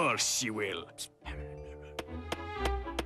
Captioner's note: whispering